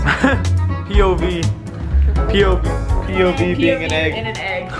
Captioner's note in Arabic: ضحكات خافتة; ضحكات خافتة